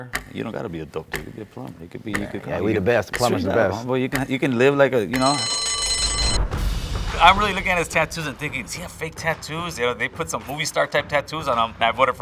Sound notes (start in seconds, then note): 5.2 bell rings